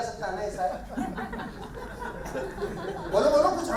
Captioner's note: laughing